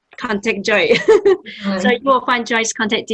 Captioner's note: laughs